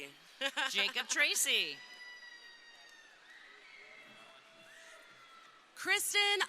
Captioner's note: laughing; crowd cheering